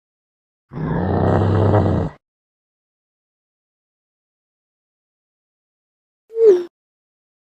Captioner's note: growling